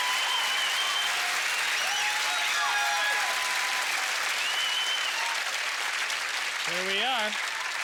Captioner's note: cheers and applause; cheers and applause continue